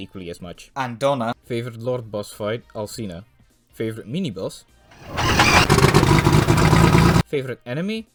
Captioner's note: plane noises